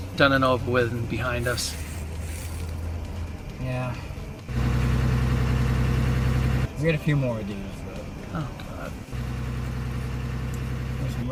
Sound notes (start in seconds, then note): 4.9 engine idling; 9.5 engine running